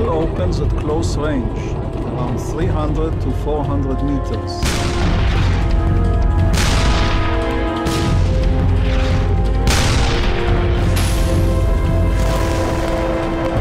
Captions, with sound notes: The battle opens at close range, 300 to 400 meters. (explosions booming) (suspenseful music)